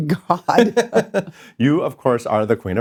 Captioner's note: laughing